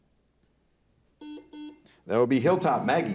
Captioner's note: buzzer dings